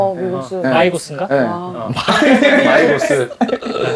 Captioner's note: laugh